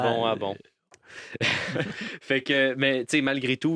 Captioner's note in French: rire